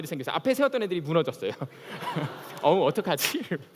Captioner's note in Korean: 웃음